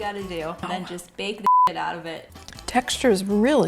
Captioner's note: beep